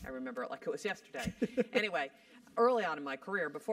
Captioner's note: laugh